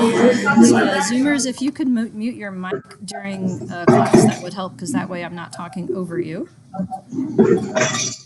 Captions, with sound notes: And Zoomers if you could mute me your mic during (murmurs) could help cause that way, I'm not talking over you.